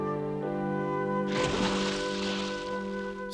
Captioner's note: sploosh!